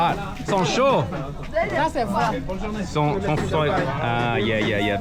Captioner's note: people speaking in foreign language